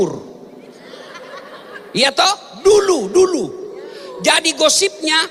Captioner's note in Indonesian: tertawa